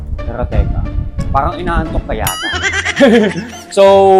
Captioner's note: laughs